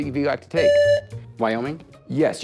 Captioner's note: buzzer